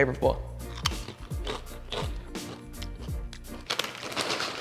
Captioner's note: chips crunching